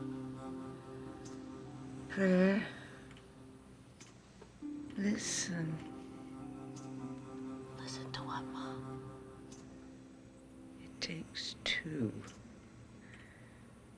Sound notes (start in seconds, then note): 7.4 whispers